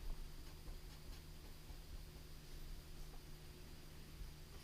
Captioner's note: pen scratching